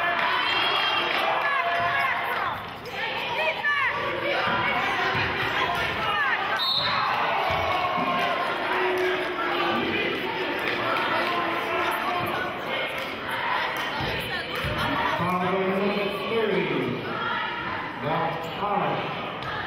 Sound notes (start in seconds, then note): 0.2 yelling; 6.5 whistling; 9.5 yelling and cheering